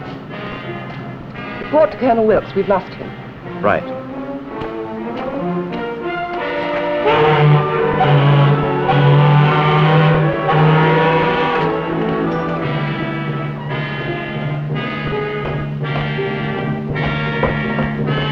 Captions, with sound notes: Report to Colonel Wilkes, we've lost him. Right. [SHIP HORN] [BUILDING DRAMATIC MUSIC]